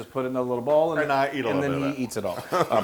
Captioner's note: laugh